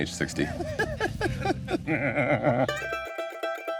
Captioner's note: laughing; folk music